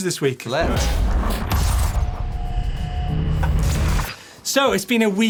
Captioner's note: electronic whirring